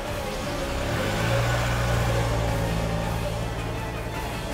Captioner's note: car leaving